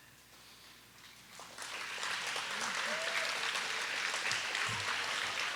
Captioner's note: audience applauding